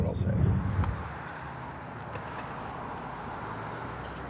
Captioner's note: vehicles swooshing